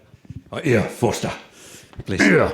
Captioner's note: Impersonating Dave Foster's growl; chuckles